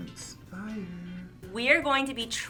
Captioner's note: quietly